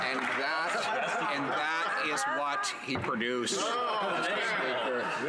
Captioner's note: some Applause